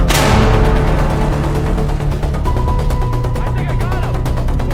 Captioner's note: gunfire blasting; artillery blasts